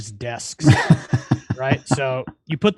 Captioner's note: laughs